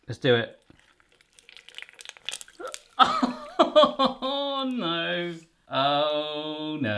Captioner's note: crackling